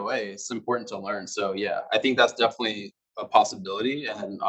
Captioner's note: male Voice